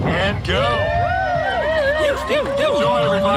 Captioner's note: cheering